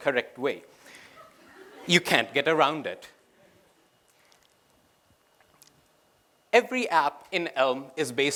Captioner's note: laughter